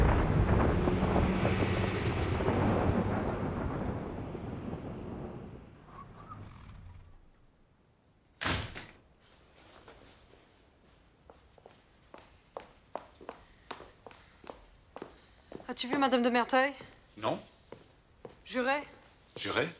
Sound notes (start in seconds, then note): 8.4 door closing